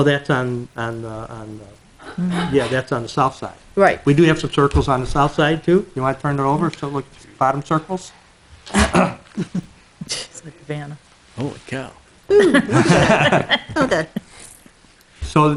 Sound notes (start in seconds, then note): 8.7 clears throat; 12.3 trustees laughs